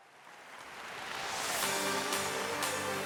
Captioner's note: audience applauding; bright music